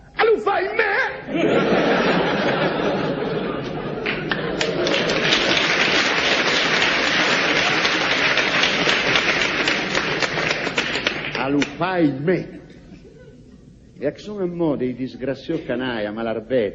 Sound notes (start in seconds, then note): 1.3 laughs; 4.0 applause